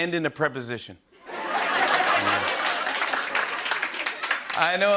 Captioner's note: laughter and applause